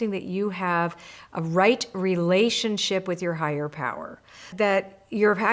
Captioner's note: none